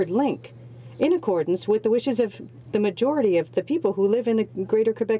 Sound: speaking French

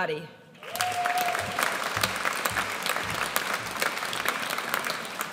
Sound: audience applauds

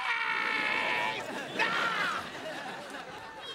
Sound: screaming

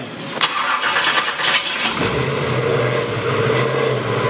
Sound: engine starts

